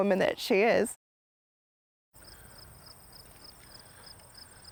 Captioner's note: crickets chirping